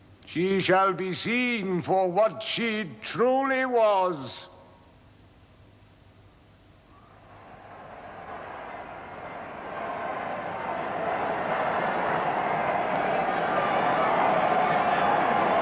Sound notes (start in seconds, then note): 7.0 faint cheering, growing louder